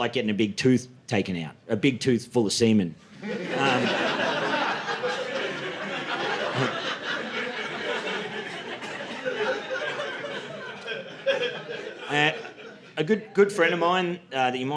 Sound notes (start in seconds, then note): 5.6 audience laughing